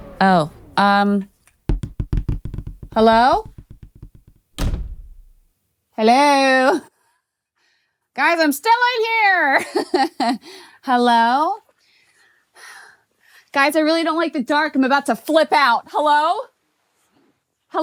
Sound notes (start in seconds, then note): 0.0 dramatic music; 10.1 chuckles